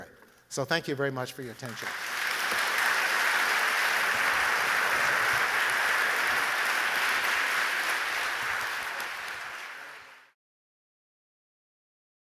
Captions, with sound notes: So thank you very much for your attention. [APPLAUSE]